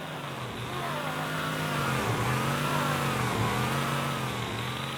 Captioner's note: Warthog Revving